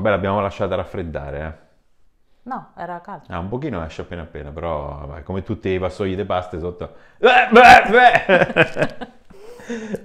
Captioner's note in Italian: Risate